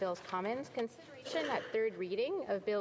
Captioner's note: speaking French